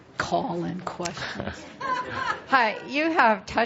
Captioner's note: laughter